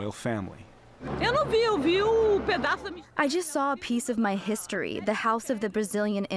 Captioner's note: through translator